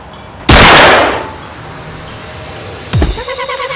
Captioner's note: gun blasting; upbeat techno music